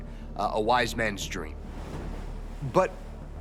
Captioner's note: surf crashing